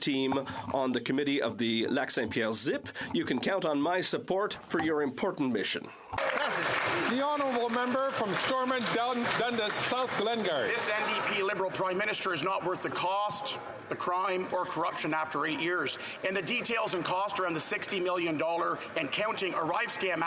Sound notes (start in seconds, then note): 10.5 some Applause